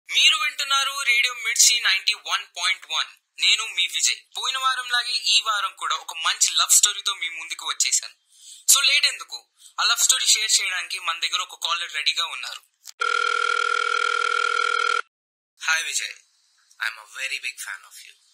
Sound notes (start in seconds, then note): 13.0 phone ringing